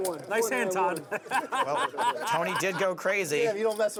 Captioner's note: laughs